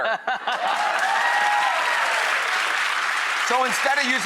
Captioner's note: applause